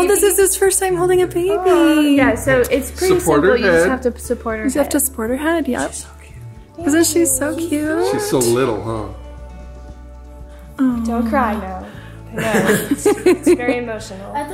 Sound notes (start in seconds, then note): 6.0 whispers